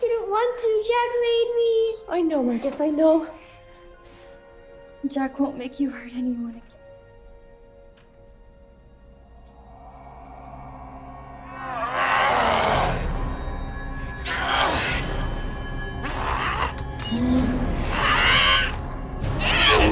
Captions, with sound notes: - I didn't want to, Jack made me. - I know, Marcus, I know. Jack won't make you hurt anymore. (eerie music) (Jack groans)